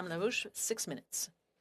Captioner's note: speaking French